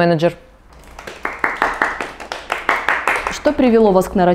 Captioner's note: applause